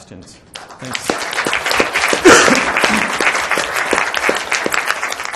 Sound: applause

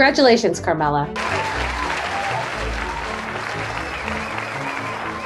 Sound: audience cheering

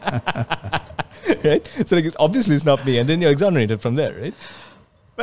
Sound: laughs

